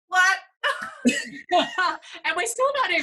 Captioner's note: laughing